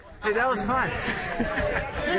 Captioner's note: laughs